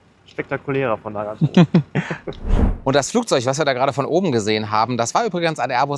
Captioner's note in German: gelächter